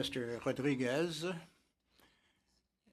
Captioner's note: speaking French